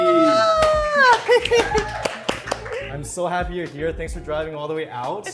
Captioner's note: applause